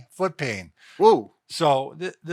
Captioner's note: exclaims